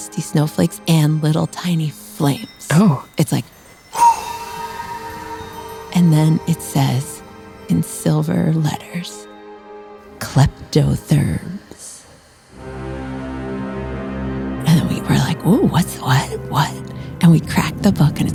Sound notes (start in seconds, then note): 3.9 blows